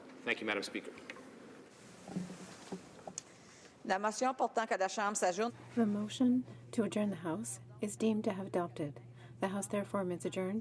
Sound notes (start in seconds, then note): 7.6 speaking French